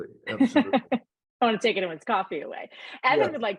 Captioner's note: laughing